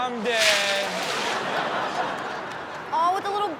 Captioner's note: audience laughs